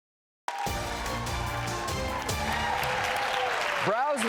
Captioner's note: audience applauding